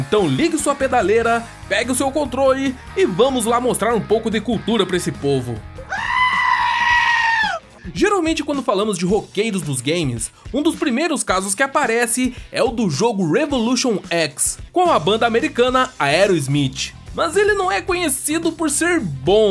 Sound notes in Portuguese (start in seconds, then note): 5.8 Cabra Gritando